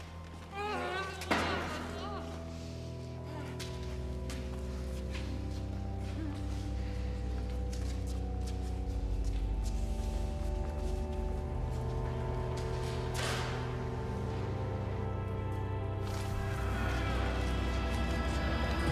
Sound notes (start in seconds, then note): 0.5 Maeve groaning; 4.7 tense music; 15.3 tense music continues